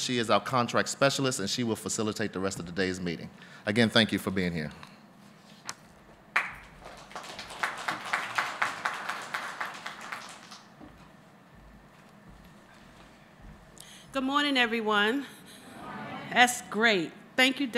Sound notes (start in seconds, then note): 6.3 applause